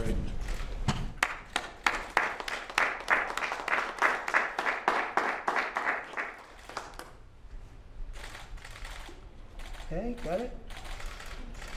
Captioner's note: applause